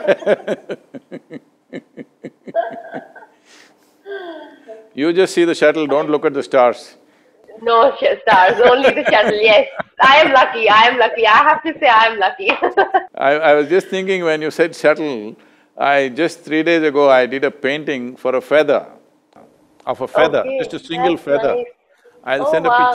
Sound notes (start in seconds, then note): 1.6 both laugh; 8.1 laughs; 13.1 both laugh